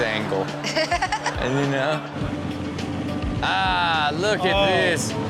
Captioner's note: audience laughing; Chanel laughs